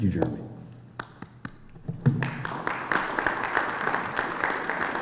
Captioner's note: applause